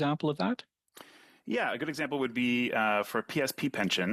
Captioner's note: speaking French